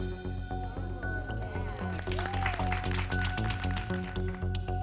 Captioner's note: applause